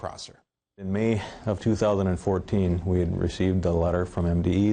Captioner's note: voiceover